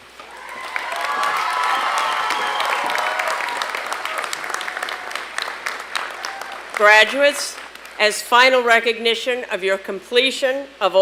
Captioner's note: applause and cheering